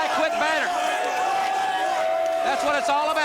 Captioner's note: crowd cheering